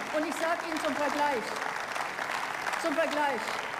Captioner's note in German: Beifall